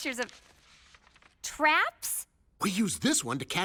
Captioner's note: pages rustling